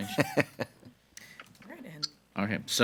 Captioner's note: laughs